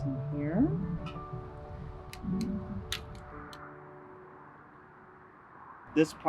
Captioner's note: soft music; wind whooshing